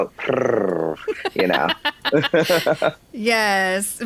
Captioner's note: laugh